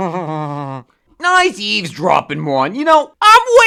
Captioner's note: Pyro laughing